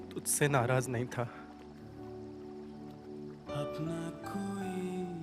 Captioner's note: foreign language